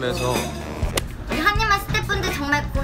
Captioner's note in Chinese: 吸入氦气后